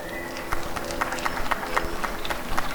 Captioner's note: applause and cheering